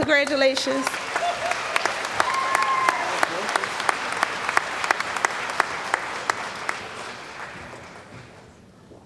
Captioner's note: cheering & Applause